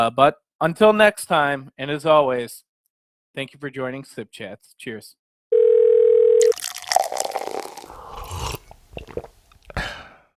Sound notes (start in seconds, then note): 5.5 phone ringing; 6.4 water pouring; 8.1 sipping